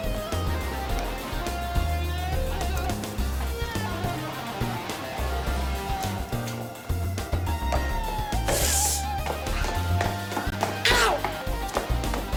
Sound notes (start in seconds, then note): 6.2 door clicks; 7.9 footsteps tapping; 8.8 Jodie groans softly